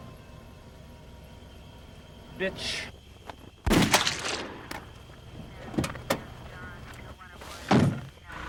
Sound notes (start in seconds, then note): 3.6 gunshot bangs